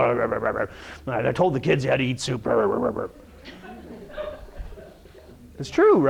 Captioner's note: rrrrrr growling inaudible; rrrrrr growling inaudible; audience laughing